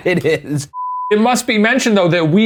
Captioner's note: beep